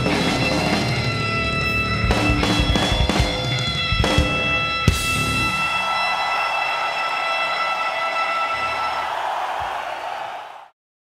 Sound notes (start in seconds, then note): 4.8 cymbals crash; 5.9 crowd cheering